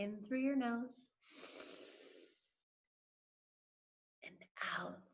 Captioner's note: inhales